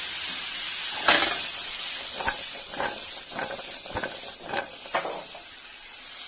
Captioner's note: cooking noises, sizzle sizzle